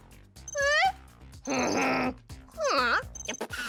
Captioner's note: growls